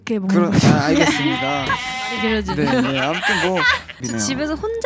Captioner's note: embarrassed laughters after saying everything